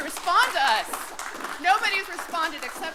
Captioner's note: applause